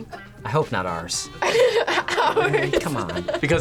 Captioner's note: laughs